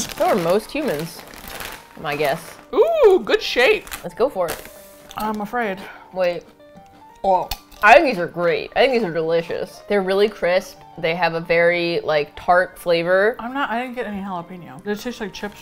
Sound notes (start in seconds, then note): 2.8 laughs; 7.3 mouth full